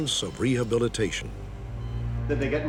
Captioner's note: machines beeping